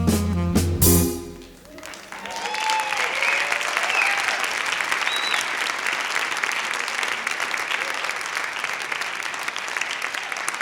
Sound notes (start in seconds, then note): 1.5 applause